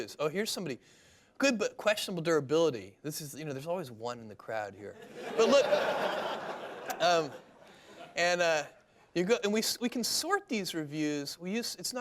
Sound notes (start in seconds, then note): 5.0 laughter